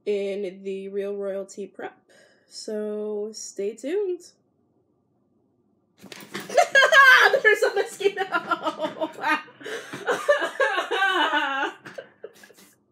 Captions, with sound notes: in the Real Royalty prep so stay tuned. [SCREAMING] There's a mosquito! [CRYING]